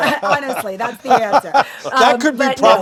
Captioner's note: laughing